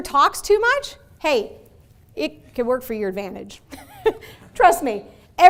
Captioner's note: laughing